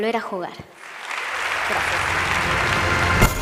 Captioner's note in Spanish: Aplausos